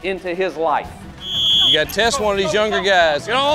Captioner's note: whistle blows